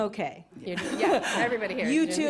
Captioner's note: laughter